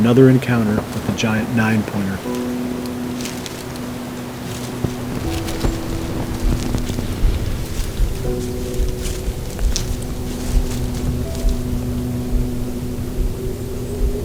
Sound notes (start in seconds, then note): 3.0 music, wind; 7.3 sound of walking